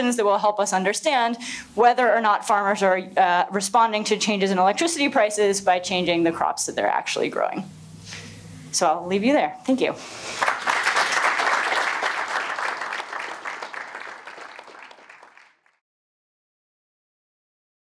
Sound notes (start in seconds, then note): 10.3 applause